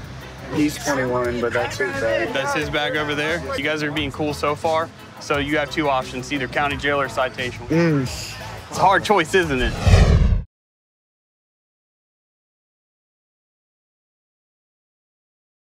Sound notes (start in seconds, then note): 7.7 strained grunt; 9.6 electronic whoosh